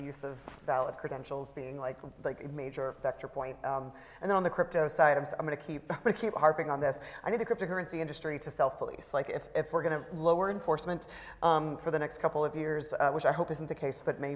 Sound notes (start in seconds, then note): 5.7 laughs